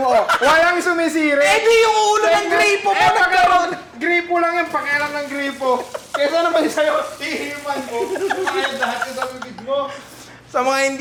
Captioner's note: laughter